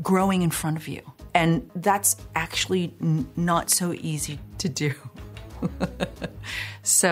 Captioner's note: laughs